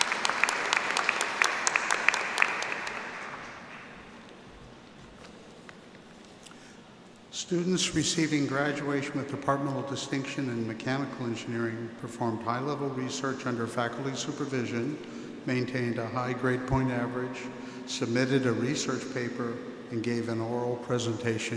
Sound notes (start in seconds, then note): 3.5 applause